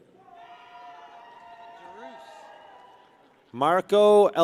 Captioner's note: people cheer